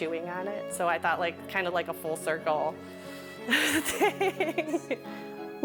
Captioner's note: laughs